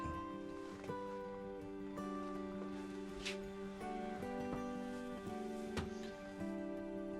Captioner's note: gentle music; birds chirping